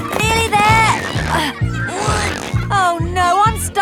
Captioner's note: grunting